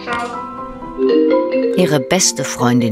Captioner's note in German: Skype-Anrufsignal